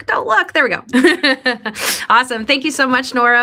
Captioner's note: laughs